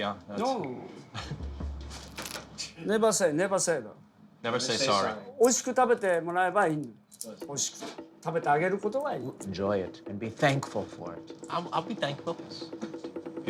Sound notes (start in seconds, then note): 5.0 speaking Japanese